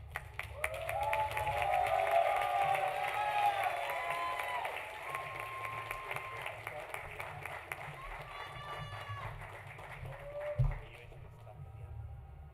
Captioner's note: applause